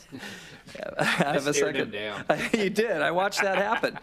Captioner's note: laughter